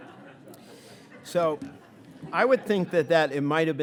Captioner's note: audience laughing; speaking faintly